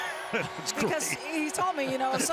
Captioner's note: laughs